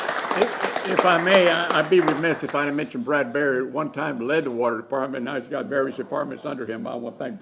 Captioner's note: applause